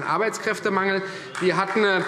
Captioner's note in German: Beifall Freie Demokraten